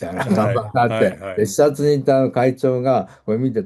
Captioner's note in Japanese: 笑い